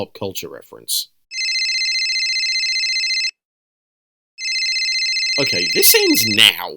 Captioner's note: phone rings